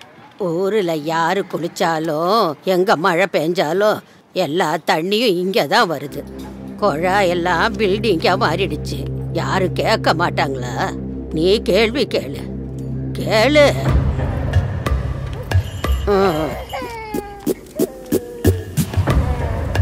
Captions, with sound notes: No matter who takes a bath or wherever it rains... All the water comes flooding into our slums. All the river beds have turned into buildings. Will no one question this? Why don’t you ask? Ask them. (Baby crying)